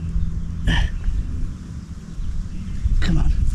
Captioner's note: grunts